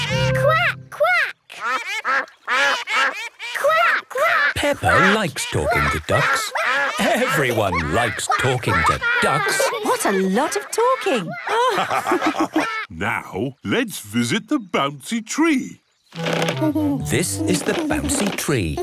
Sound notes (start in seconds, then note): 1.6 quacking; 11.8 all laugh